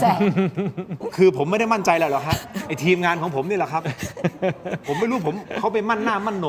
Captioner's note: laughter